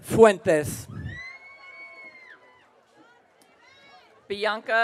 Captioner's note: audience cheering